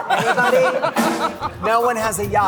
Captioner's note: laughter